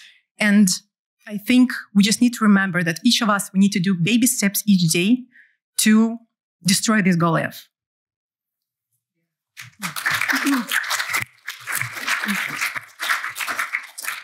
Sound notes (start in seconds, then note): 9.6 applause